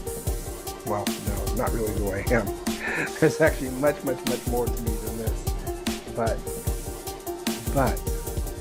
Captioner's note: chuckling